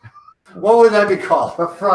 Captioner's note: laughs